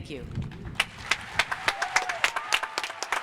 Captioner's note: applause